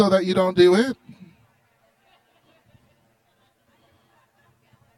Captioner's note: chatter